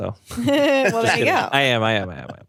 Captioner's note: everyone laughs